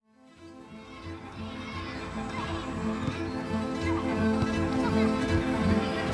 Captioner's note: bright music; kids clamouring